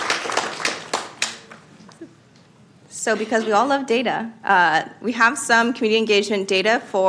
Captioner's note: applause